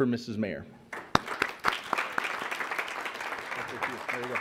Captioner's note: audience applauds